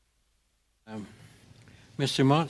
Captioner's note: speaking French